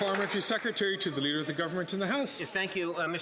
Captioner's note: some Applause